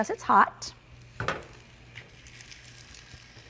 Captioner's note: pan sizzling